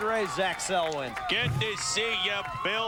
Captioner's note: mimicking Howard Cosell